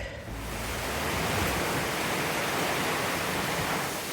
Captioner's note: heavy rain